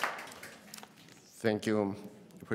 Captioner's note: applause